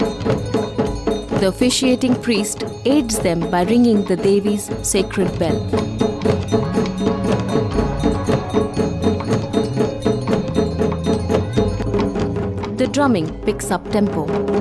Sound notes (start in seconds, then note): 0.0 bell jingling; 0.0 soft druming; 4.7 soft druming; 5.8 bell jingling; 14.1 intense drumming